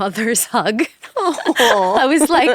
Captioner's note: people laughing